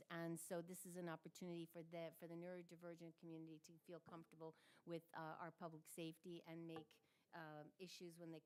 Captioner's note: none